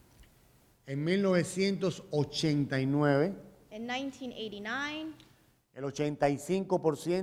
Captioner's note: speaking in Spanish